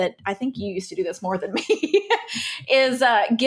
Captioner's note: laughs